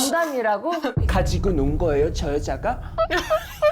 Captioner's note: in a tragic heroine’s voice